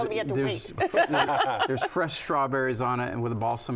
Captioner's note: laughs